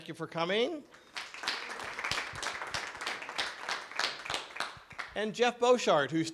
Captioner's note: clapping